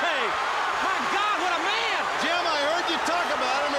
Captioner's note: crowd cheering